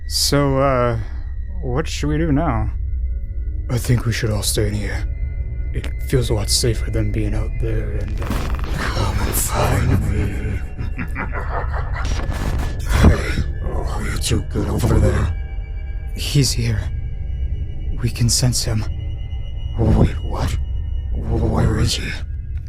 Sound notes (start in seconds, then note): 9.6 evil laughter